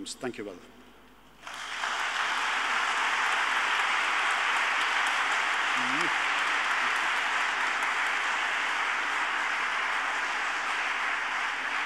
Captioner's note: audience applauding